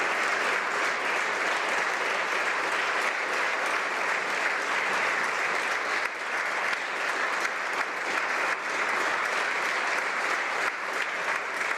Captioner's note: speaking French